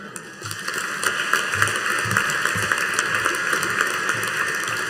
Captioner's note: audience applauding